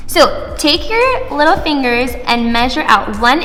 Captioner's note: none